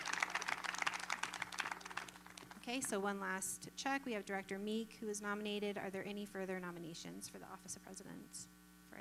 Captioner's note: applause